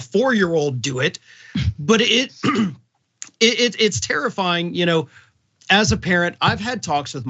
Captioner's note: cough